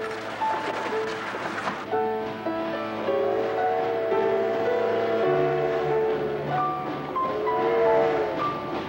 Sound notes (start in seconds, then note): 3.1 train horn whistling